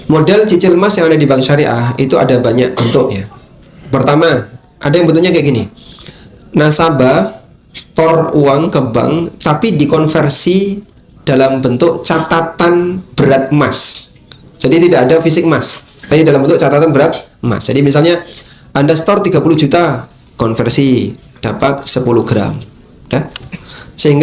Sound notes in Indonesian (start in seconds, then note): 2.7 berdehem